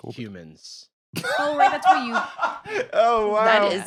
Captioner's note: laughs